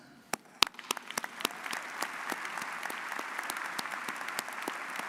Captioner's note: audience applauds